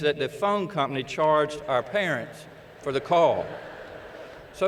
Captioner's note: laughter